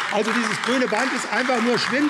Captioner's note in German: Beifall AfD